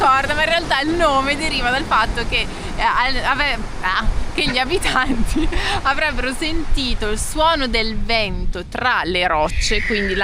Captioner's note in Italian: risate